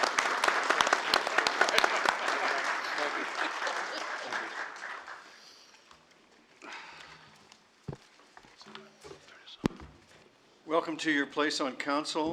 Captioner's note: applause